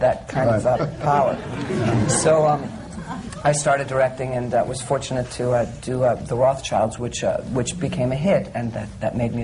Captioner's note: laughter